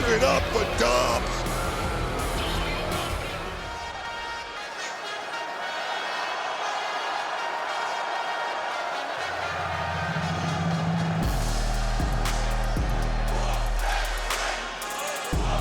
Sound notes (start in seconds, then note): 4.6 catchy theme music; 4.6 crowd cheers